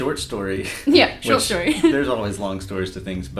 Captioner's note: laughs